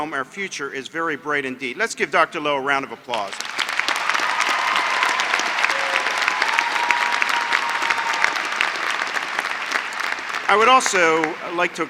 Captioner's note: applause